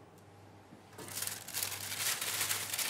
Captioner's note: crackling